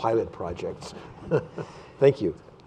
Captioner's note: laughter